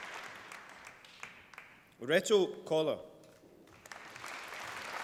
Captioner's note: applause